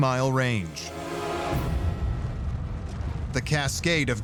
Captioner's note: fire roaring